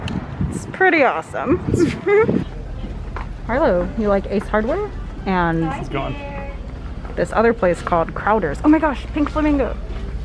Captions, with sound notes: It's pretty awesome. [Laughs] Harlow? You like Ace Hardware? And [Background voice talking] It's gone. This other place called Crowders. Oh my gosh! Pink flamingo.